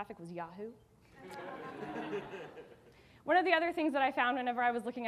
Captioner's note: audience laughing